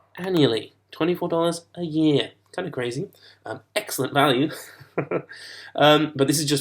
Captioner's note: laughs